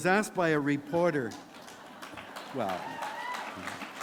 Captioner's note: applause